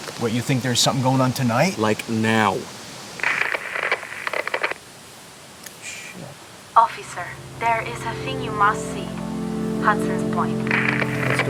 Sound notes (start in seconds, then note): 3.1 radio crackles